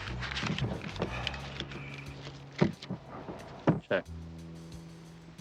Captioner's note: Nick sighs